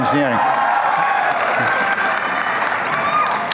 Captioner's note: applause